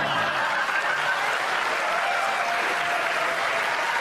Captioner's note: laughter